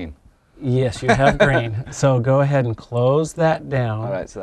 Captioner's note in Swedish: småskratt